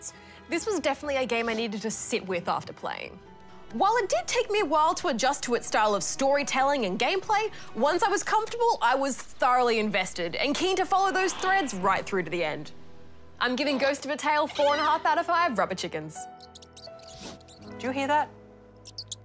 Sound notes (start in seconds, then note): 16.3 mouse squeaks